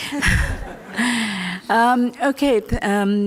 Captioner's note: laughter